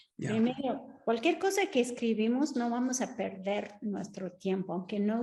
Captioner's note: speaks Spanish; Sandra speaking Spanish